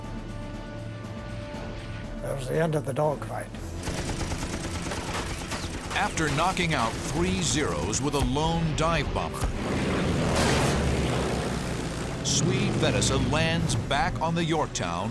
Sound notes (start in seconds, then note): 3.8 bullets whirring